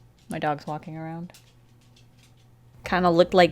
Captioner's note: the sound of seldom trimmed claws massaging the floor